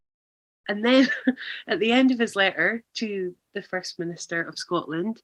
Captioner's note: laughs